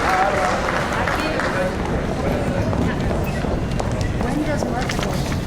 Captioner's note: audience chattering